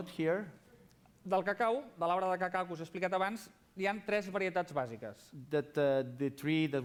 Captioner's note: non-english speech